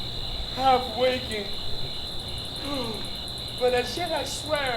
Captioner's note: yawns